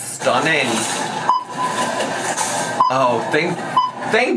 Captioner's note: check out beeping